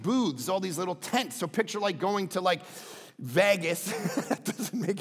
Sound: laughs

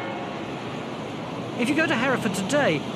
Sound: bells clanging; bikes roaring

